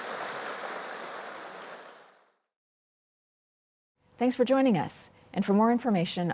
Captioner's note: applause